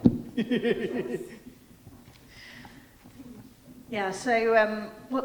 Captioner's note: laughing